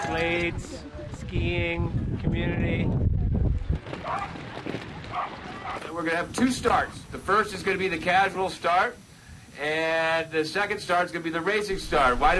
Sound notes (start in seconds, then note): 4.0 dog barking